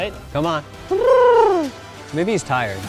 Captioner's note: cooing